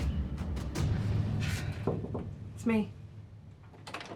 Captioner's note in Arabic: يقرع; صرير الباب مفتوحًا، مغلقًا